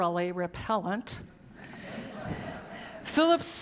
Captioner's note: audience laughing